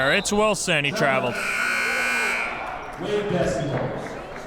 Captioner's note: buzzer blares